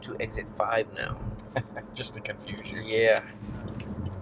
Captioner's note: laughs